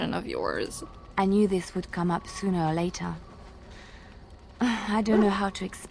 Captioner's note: sighs